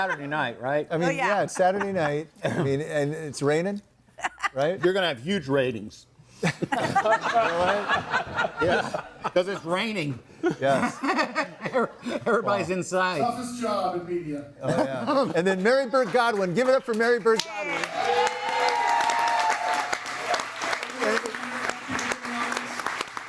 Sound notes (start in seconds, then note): 6.4 group laughs; 17.2 audience applauds and cheers